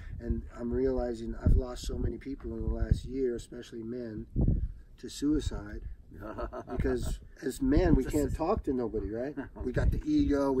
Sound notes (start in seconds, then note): 6.1 Maurice laughs